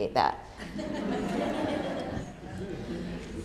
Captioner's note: laughter